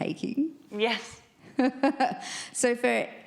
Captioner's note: laughs